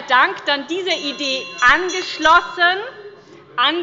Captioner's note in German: Glockenzeichen des Präsidenten